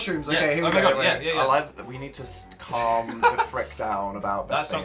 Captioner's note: Phil laughs